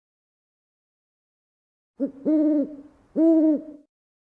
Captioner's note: owl goes Whoo